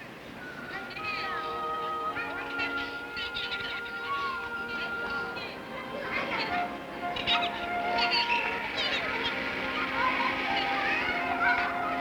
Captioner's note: children playing